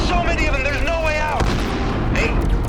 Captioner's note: explosion booms